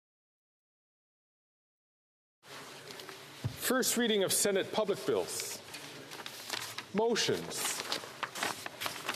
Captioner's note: speaking French